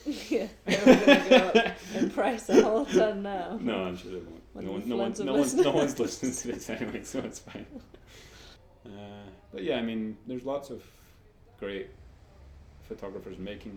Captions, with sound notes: C - Yeah! They're all gonna go up in price a whole ton now... (both laugh) D - No I'm sure that it won't. No-one's listening to this anyway so it's fine! But yeah I mean, there's lots of great photographers